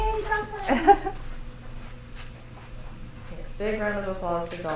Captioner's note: laughs